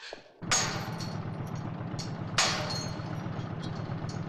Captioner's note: metal banging